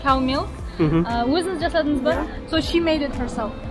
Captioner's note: speaking in Kazakh